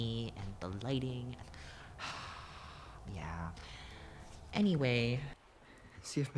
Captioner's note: sigh